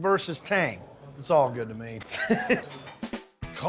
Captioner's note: laughs